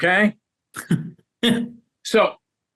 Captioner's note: laughing